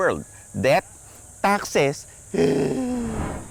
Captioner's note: sobs